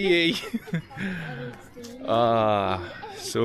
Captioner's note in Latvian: smiekli